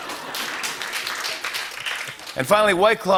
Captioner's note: applause